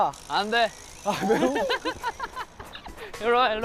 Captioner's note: giggling